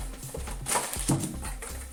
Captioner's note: sound of falling adapter